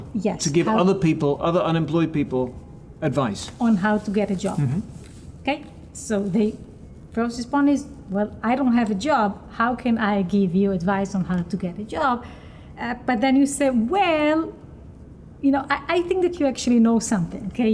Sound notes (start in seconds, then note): none